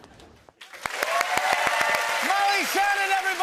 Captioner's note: cheers and applause